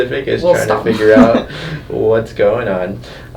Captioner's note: chuckles